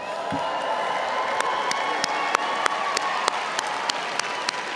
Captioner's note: audience applauding